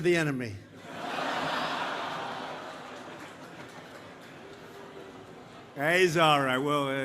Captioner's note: laughter